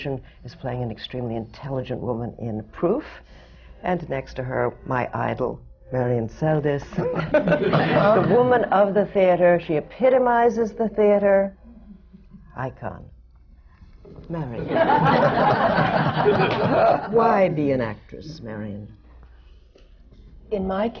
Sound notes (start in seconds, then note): 7.3 laughter